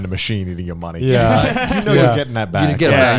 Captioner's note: all laughing